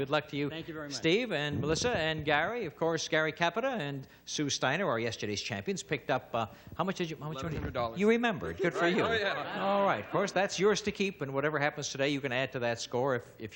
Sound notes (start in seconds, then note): none